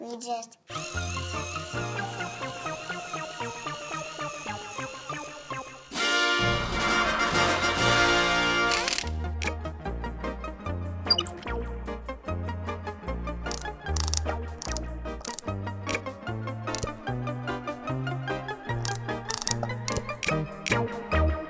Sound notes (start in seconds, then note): 4.5 drilling noise continues; 8.1 music fanfare; 11.6 drilling noises; 15.9 unscrewing